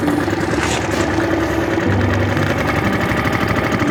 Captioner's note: motor rumbles